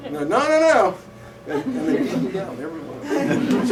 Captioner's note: laughter